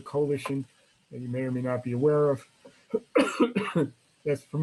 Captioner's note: coughs